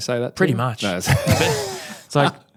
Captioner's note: laughs